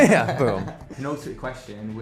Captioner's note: laughs